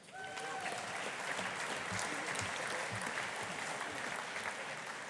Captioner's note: audience applauding